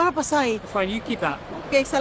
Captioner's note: woman speaking in foreign language